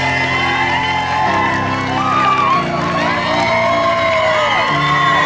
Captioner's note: crowd cheering